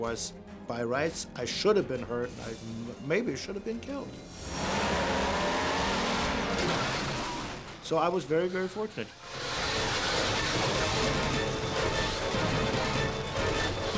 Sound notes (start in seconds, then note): 4.3 engine roaring; 6.7 car crashing; 9.0 car skidding; 11.0 dramatic music